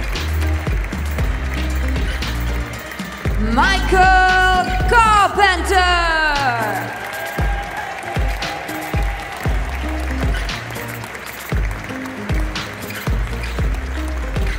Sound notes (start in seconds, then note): 0.0 applause; 10.9 applause